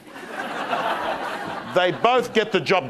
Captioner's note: crowd laughing